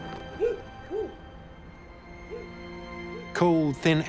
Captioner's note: dog barking